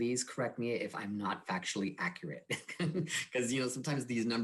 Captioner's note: laughs